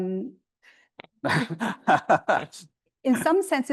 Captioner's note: panelists laughing